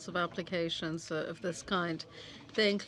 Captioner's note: speaking French